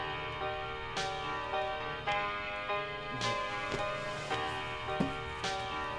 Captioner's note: phone rings